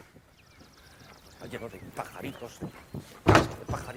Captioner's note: grumbling